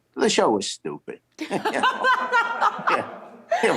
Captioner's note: laughter